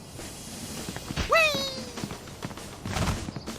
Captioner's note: screams